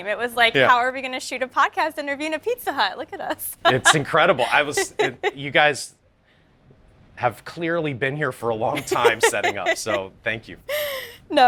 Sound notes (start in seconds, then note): 3.4 interviewer laughs